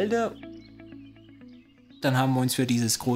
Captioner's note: birds chirping